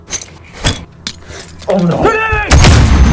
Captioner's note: flashbang pin pulled; gasps; tinnitus